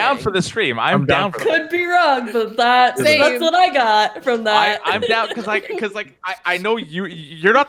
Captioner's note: laughs